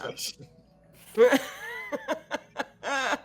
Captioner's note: all laughing